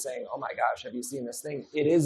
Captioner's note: none